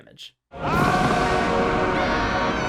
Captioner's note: Mufasa screams